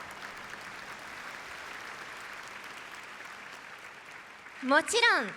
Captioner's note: applause